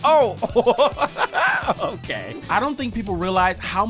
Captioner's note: laughter